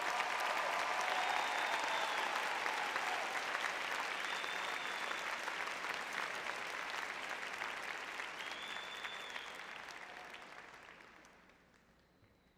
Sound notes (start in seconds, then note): 1.1 applause